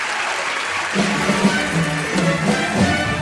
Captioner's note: applause; cheering; applause